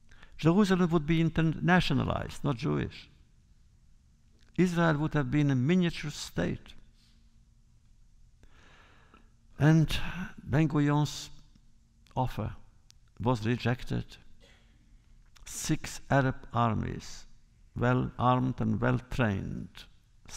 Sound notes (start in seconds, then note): 9.9 sighs